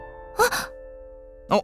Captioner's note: gasp